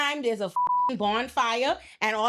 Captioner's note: beep